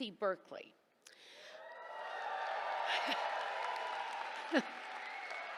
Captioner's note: cheers, applause